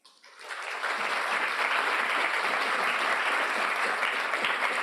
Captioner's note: audience applauding